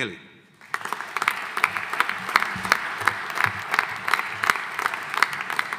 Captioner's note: audience applauding